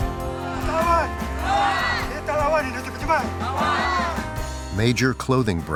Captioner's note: shouting in foreign language